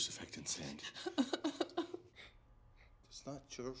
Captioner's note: sobs